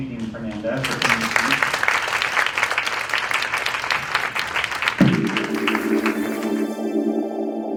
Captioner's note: applause